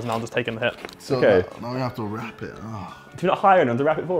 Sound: groans

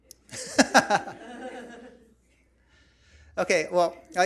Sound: laughs; audience chuckles

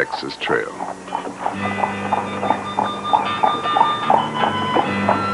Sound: hooves clopping

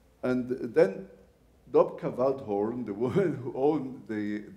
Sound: laughs

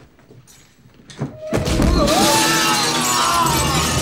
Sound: screaming

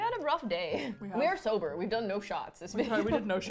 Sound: laughs; laughs

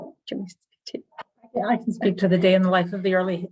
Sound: speaking faintly off mic

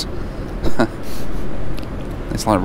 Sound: host laughs

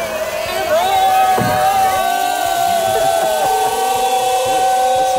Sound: group cheering; someone laughing

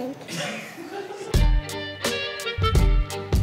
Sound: laughter

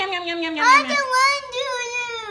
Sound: voiceover

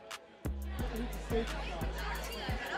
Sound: laughs

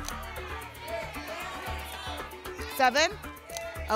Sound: audience shouting numbers

